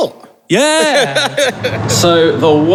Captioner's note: laughs